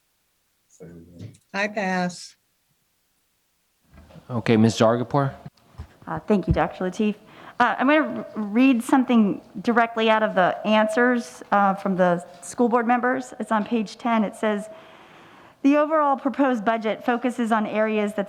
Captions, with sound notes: (faintly speaking) - Hi pals. - Okay Ms. Zargarpur. - Thank you, Dr. Lateef. I'm gonna read something directly out of the answers from the school board members. It's on page 10. It says, "The overall proposed budget focuses on areas